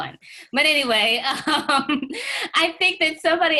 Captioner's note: laughs